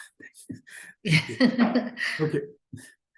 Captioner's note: both laughing